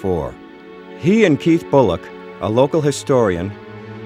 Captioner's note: german